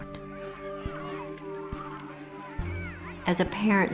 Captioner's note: children shouting playfully